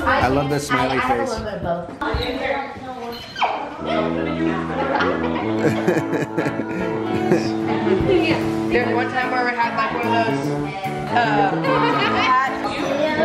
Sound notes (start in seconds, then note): 3.8 tuba music; 5.4 man laughing; 13.0 children chattering